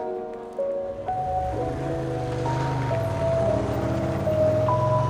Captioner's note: car engines revving